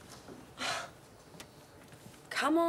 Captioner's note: Jodie sighs